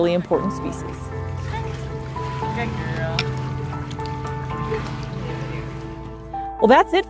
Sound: water splashing noises; background music

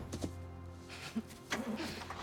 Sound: laugh

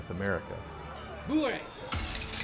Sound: soldier speaking French

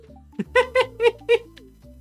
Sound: laughter

